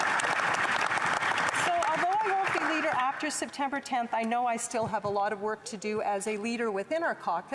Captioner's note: applause